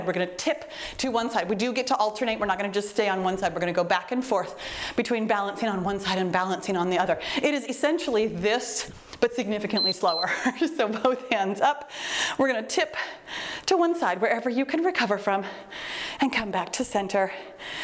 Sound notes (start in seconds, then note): 9.7 timer beeps